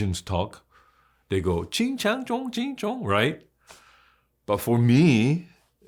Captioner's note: gibbering